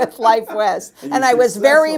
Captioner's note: laughs